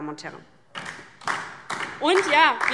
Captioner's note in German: Beifall DIE LINKE